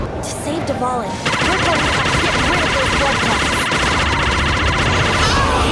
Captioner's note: attacking noises